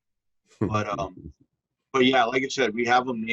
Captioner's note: chuckling